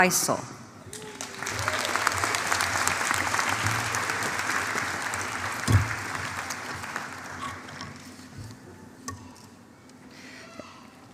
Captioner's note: applause